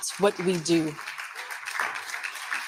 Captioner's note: audience applauding